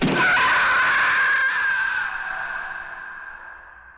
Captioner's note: loud screech